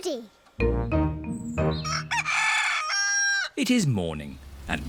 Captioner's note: cockerel crows